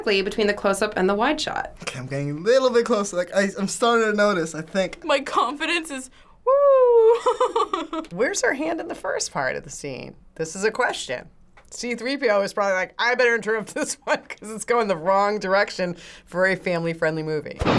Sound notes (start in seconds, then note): 7.5 laughs